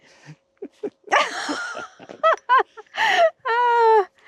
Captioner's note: laughs